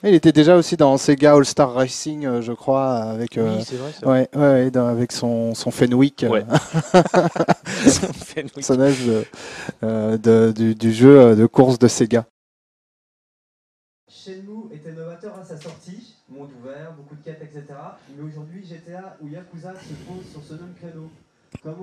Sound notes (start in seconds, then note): 6.5 laughs